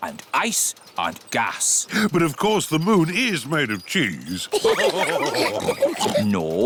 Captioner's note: all laugh